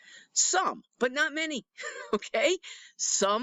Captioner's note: chuckles